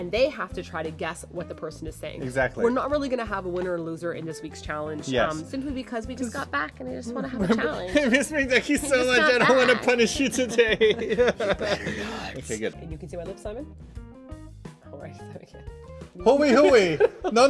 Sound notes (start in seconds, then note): 11.1 sobs; 16.5 laughing